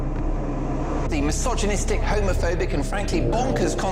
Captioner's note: various voices